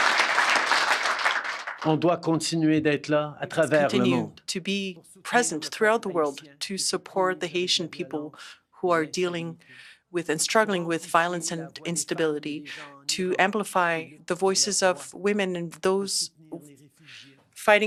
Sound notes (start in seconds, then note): 0.0 applause; 5.8 speaking French